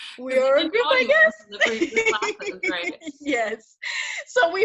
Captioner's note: laughs